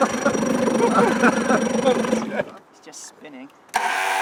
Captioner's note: boat engine; laughing